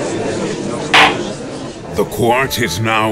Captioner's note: gallery chattering; gavel slams!